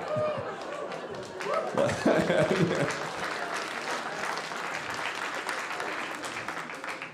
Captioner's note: audience laughing; audience applauding